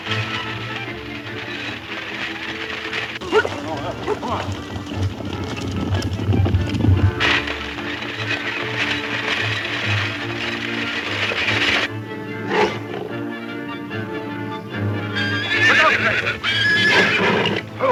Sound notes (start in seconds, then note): 12.2 cougar growling; 16.2 horses screaming; 17.0 cougar roars